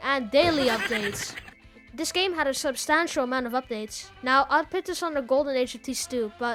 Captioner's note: haha